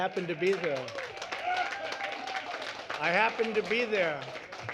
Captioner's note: applause